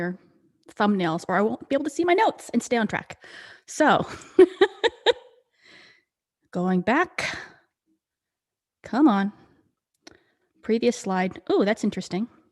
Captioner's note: laughs